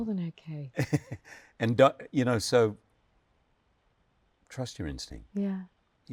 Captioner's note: chuckles